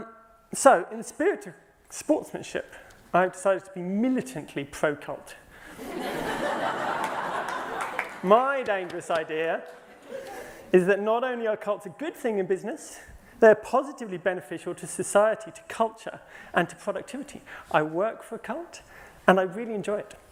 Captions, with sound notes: So, in the spirit of sportsmanship, I decided to be militantly pro-cult. (LAUGHTER) My dangerous idea is that not only are cults a good thing in business, they are positively beneficial to society, to culture and to productivity. I work for a cult, and I really enjoy it.